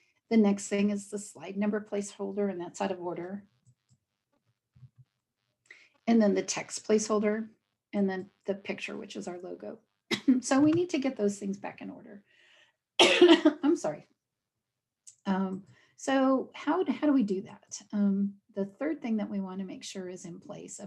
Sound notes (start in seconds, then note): 13.0 coughing